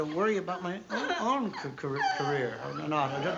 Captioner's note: crying